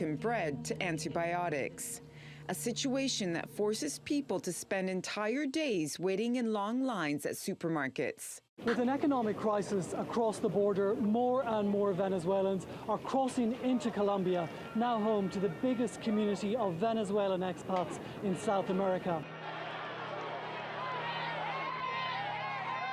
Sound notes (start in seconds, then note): 16.9 shouting